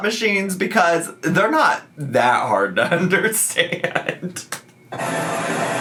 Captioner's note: laughs